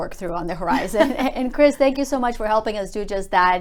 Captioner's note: laughs